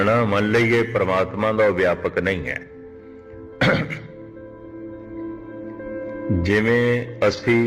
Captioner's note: voice of clearing throat